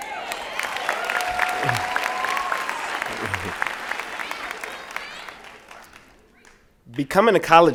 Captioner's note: applause and Cheering